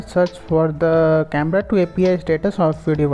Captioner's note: Arabic